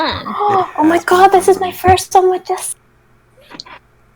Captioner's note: gaaassssp